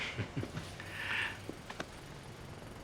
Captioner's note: Joe chuckles